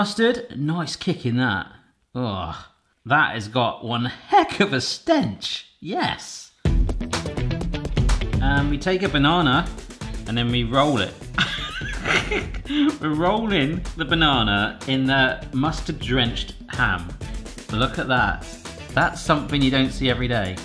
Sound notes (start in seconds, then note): 5.5 melodic upbeat music; 11.3 laughing